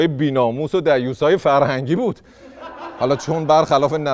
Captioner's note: laughter